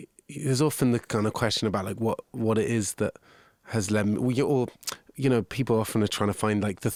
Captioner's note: none